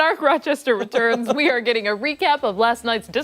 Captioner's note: laughter